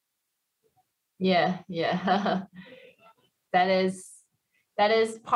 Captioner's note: laughs